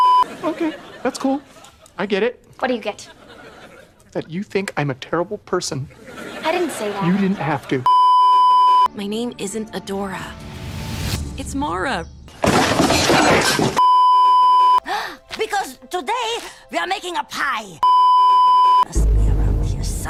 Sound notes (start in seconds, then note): 7.8 sad beeeeeep; 14.8 gasps; 18.9 weird time travel noises